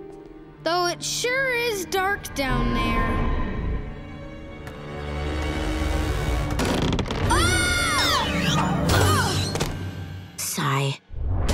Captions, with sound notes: Though it sure is dark down there. [creaking] [screaming] Sigh.